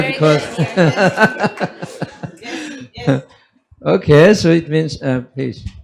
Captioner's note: laughs